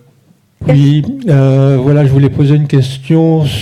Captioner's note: speaking in French